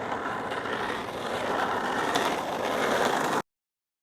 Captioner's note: sound of skateboarding